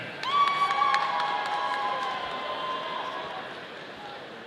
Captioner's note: audience cheering